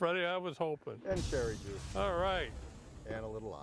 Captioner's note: sizzles